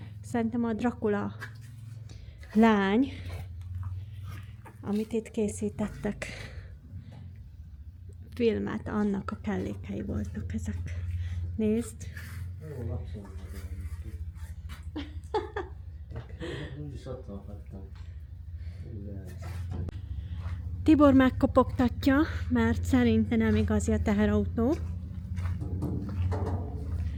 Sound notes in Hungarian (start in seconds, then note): 14.8 nevetés